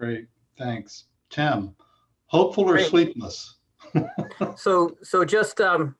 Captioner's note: laughs